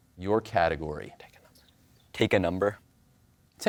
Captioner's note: whispers